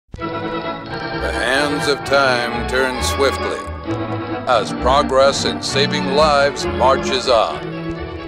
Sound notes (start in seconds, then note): 0.1 old time instrumental music; 1.8 voiceover